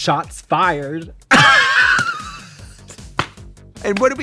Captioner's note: both laugh